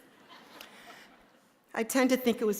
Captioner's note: audience laughing